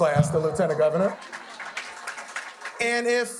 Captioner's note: audience applauding